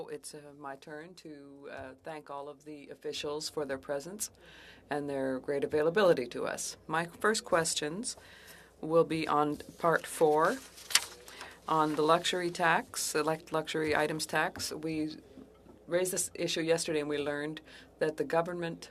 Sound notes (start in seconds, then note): 5.9 speaking French